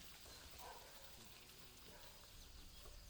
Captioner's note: barking